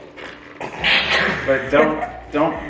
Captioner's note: family giggle